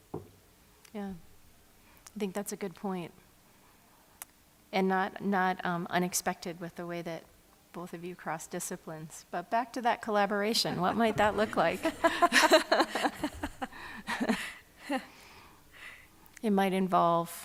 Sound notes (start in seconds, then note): 11.4 laughter